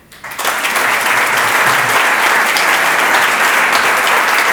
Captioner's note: audience applauds